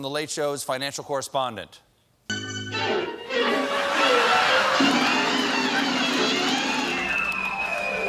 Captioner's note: laughter